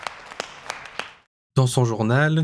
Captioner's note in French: applaudissements